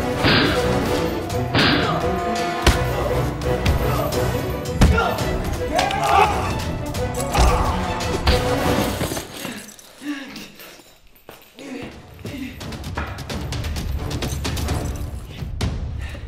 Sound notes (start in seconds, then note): 6.5 yelling; 9.2 heavy breathing; 13.6 tense music